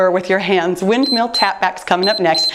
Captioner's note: timer beeps